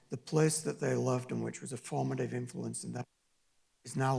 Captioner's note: distorted audio